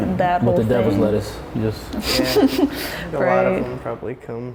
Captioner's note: laughing